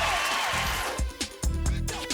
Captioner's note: applause